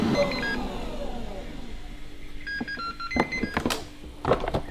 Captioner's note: fryer beeping